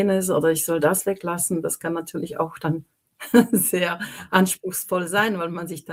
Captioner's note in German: gelächter